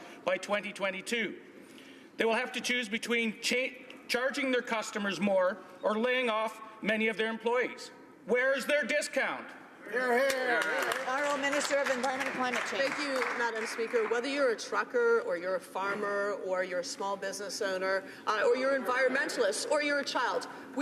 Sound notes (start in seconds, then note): 13.0 some Applause